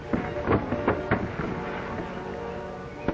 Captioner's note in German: polternd